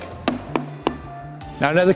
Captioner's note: hammer banging